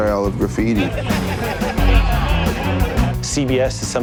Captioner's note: group laughing and chattering indistinctly